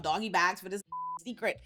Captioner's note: beep